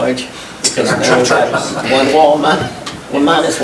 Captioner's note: directors chuckle